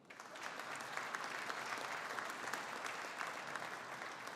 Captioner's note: audience applauding